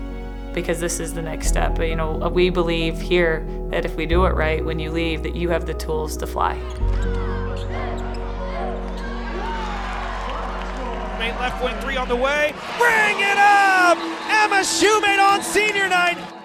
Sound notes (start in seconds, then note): 6.9 gentle music continues; 9.6 audience cheers